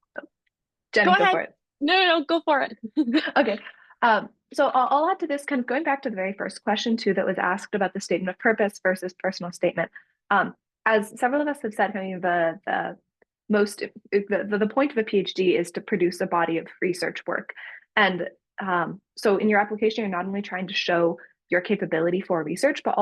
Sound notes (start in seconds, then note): 3.2 laughs